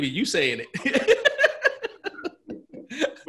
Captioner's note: laughs